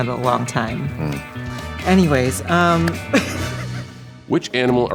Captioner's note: laughs